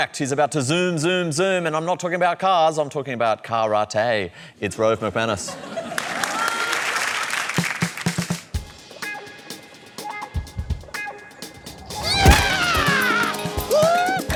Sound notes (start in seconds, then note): 5.4 laughter, applause; 8.4 funky music